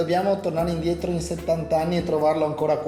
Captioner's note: speaks dialect